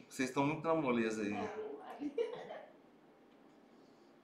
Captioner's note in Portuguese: risos